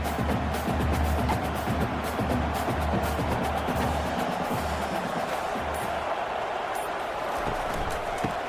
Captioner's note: crowd cheering